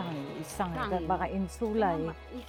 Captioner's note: converses in Chinese